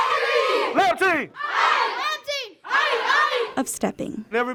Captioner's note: call and response continues